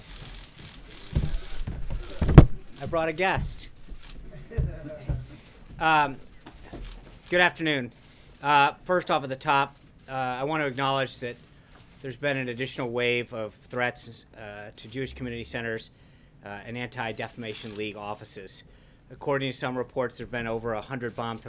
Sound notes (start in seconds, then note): 4.2 laughter